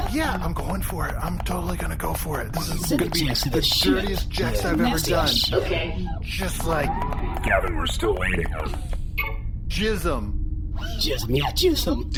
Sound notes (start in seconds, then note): 2.5 texting; 9.2 text-sent noise